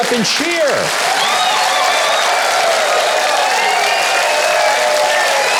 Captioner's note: audience cheering